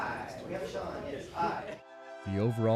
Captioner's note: murmuring; jazz music